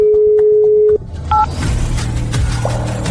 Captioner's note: phone disconnected, line busy